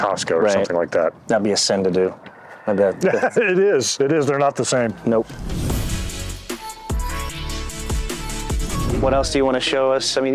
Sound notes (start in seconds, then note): 2.8 laughs; 5.0 upbeat music